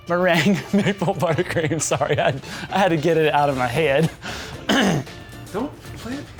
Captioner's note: everyone laughs offscreen